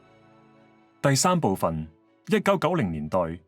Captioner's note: Cantonese